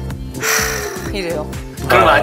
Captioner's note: phew